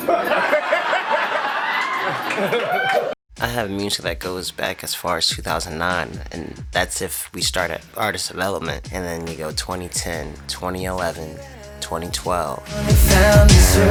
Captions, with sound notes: (Laughter) (Cheering) I have music that goes back as far as 2009 And that's if we start at Artist Development And then you go 2010 2011 2012